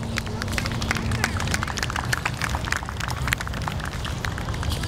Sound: audience applauding

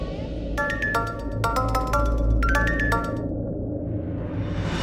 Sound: mobile ringing

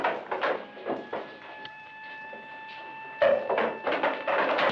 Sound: siren wailing

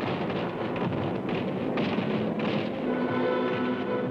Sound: guns firing

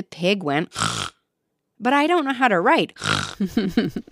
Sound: snorting noise

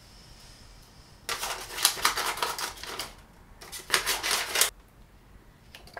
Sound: vigorous cutting noises

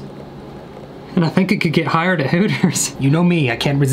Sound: laughing

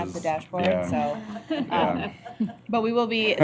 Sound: laughter

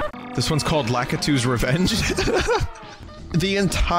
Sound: laughing

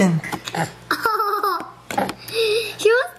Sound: guffaws

